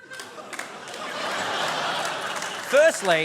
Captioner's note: laughter